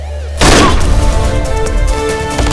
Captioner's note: gunshot